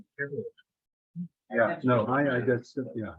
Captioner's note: members chattering